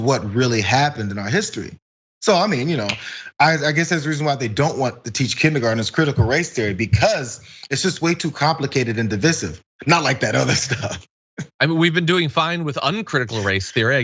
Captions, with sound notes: So I mean, I guess there is reason why they don't want to teach kindergarteners critical race theory. Because it's just way too complicated and divisive, not like that other stuff. [LAUGH] >> I mean, we've been doing fine with uncritical race theory. I guess they just want to continue that.